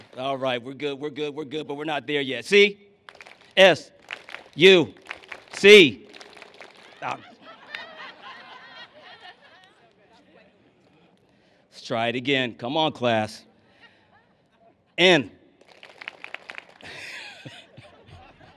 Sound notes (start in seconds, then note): 3.0 clap; 3.0 clapping; 8.6 laughter; 15.6 clapping; 16.8 laughs